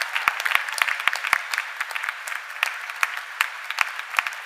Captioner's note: cheers and applause